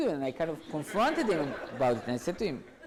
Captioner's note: audience laughs